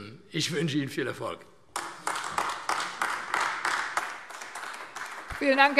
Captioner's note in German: Heiterkeit und Beifall AfD